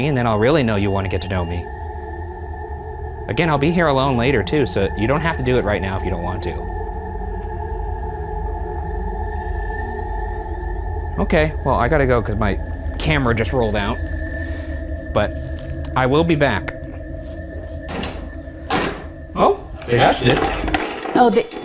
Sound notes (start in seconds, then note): 7.3 ominous music; 17.7 door rattles